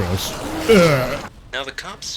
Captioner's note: yacking noise